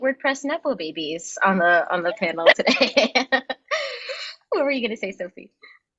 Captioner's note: laughing